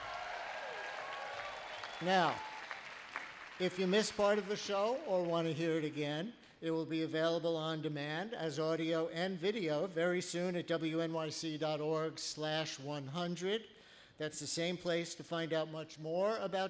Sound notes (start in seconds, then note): 0.0 applause